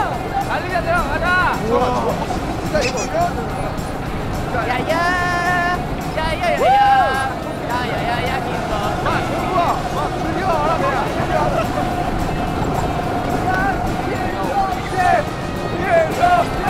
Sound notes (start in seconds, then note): 6.4 cheering